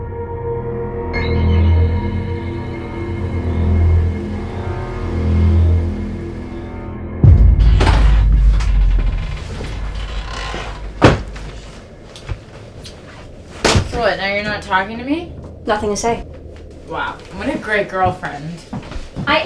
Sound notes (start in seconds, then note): 2.4 eerie music continues; 7.2 door creaks; 11.1 door slams